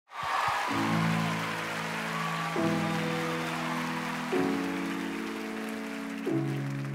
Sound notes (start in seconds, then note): 0.0 crowd cheering and clapping; 0.6 gentle uplifting music